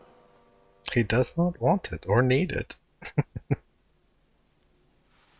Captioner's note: chuckling